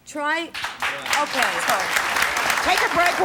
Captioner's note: audience applause